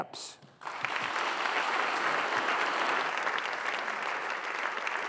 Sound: audience applauding

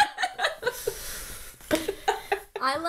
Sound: laughter

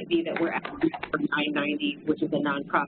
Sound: distorted electronic noises

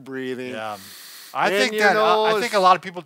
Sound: breathes in

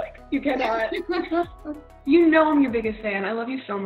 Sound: laughing

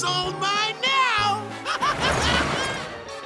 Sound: laughing

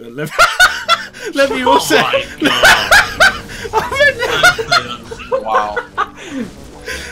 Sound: everyone laughing

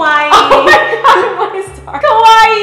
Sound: laughs

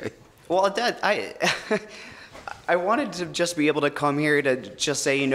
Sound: stammering laugh

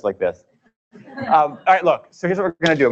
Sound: laughing

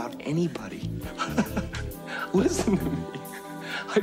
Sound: laugh

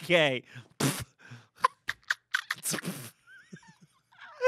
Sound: both laughing

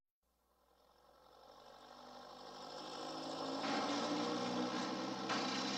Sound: biplane propeller noises

